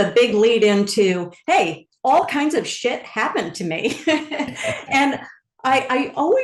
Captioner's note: laughs